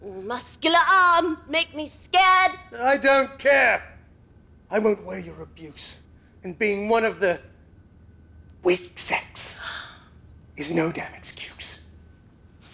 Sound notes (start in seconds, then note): none